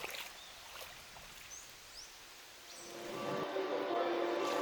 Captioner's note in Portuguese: Som de água do mar